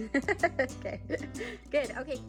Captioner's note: laughing; acoustic guitar music